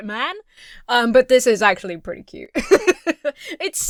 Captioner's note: Emma laughs